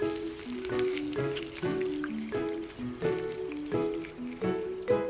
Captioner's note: crunching